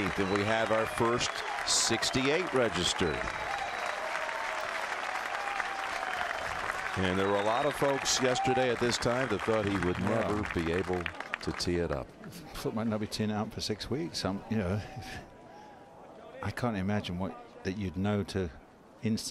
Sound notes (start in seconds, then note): 9.8 applause